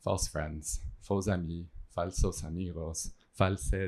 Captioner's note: non-english speech